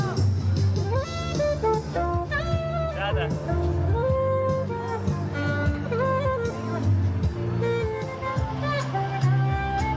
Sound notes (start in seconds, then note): 1.3 people chattering; 8.3 upbeat music